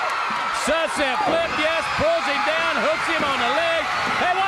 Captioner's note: crowd cheering